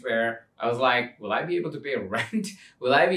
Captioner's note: chuckles